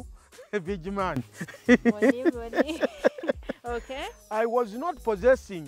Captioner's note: laughs